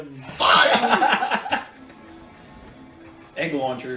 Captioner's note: laughs